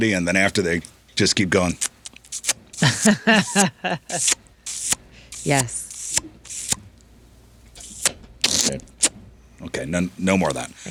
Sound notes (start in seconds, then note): 1.6 kissing; 2.3 laughing; 7.7 kissing